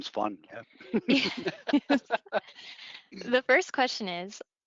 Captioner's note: presenters laughing